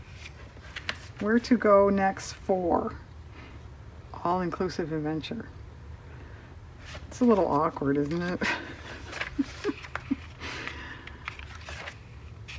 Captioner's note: laughs